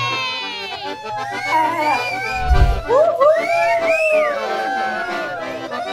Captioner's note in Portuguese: Som de assobio; Som de comemoração